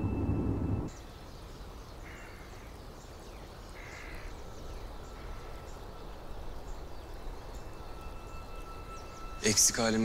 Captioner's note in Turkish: Kuş cıvıltı sesleri